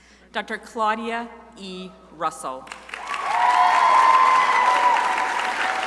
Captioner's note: crowd applauding